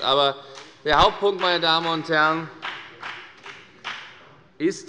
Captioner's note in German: Beifall bei der FDP